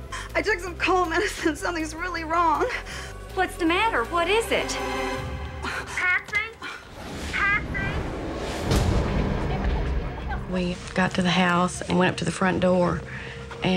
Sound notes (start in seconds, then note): 5.0 gasping